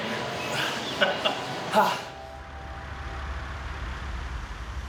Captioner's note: laughing